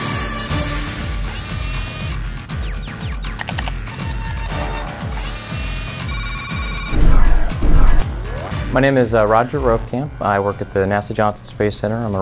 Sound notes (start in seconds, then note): 4.4 digital sound